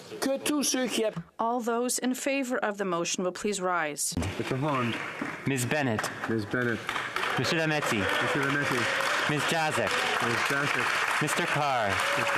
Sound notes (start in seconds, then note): 3.5 speaking French